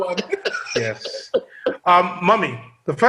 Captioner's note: laughter